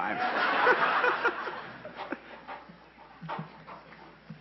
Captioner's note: laughing